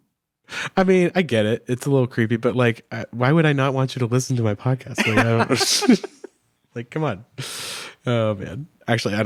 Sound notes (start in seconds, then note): 5.0 both chuckle